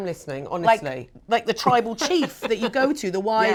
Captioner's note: laughs; chuckles